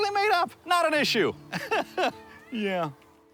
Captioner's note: laughs